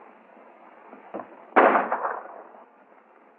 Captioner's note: firing